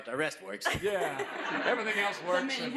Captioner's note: laughs